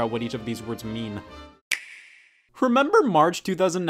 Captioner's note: clicking